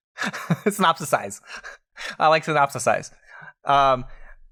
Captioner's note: laughs